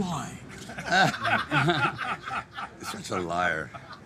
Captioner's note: group laughing